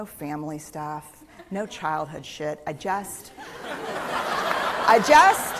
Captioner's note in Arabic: ضحك; تصفيق